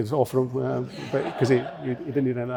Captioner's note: audience laughing